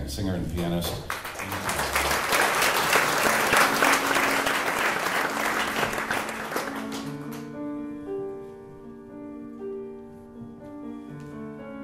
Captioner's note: applause